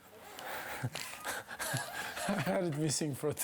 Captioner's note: laughs